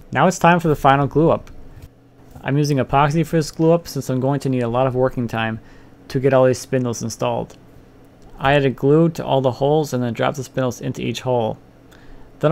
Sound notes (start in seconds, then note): none